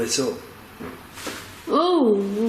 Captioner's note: tapping